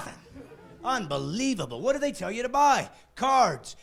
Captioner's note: laughing